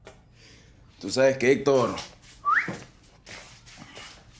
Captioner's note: whistling